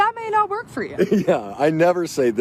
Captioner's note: laughs